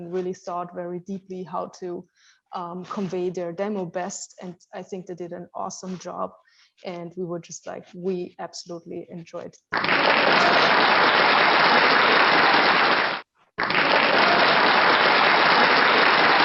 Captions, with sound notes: really thought very deeply how to convey their demo best, and I think they did an awesome job, and we were just like, we absolutely enjoyed. [APPLAUSE]